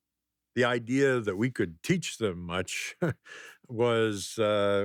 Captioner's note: laughs